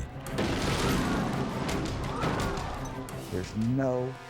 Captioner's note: jet crashing; crowd gasping